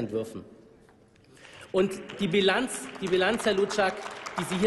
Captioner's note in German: Applaus